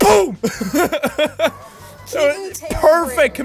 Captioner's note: laughing